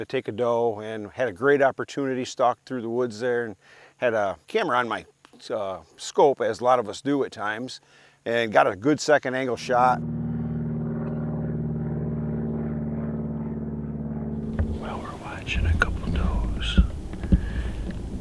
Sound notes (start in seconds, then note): 9.5 helicopter flying